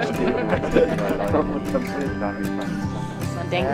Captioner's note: laughter